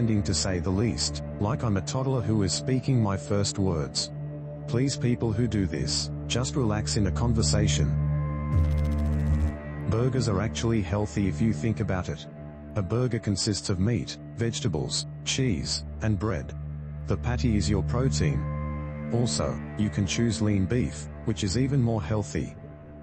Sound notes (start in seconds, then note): 8.5 electrical noise